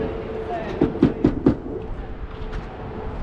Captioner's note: tap tap tap tap